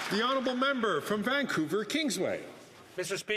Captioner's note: some Applause